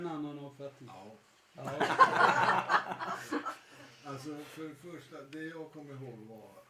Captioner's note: laughter